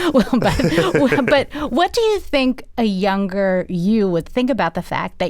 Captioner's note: laughter